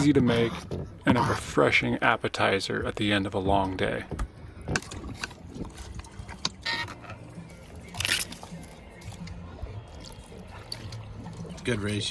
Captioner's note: clinking; gentle music